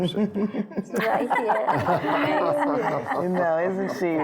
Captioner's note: laughing